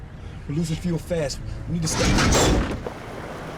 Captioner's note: engine clunks